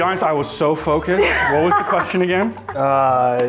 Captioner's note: laughs